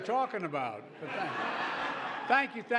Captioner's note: laughter